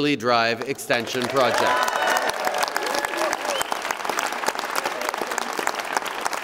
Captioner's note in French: Acclamations et applaudissements